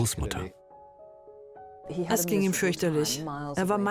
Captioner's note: voiceover